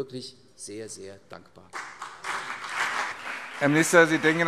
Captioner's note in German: Beifall CDU und BÜNDNIS 90/DIE GRÜNEN